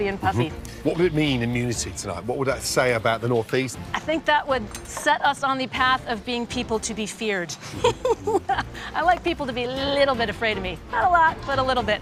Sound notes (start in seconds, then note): 7.6 laughs